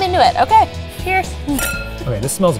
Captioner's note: glasses clinking